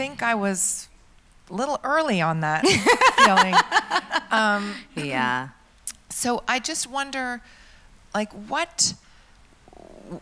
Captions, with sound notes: - And I think I was a little early on that feeling. (laughs) - Yeah. - So, I just wonder,